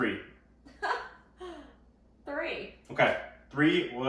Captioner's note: chuckles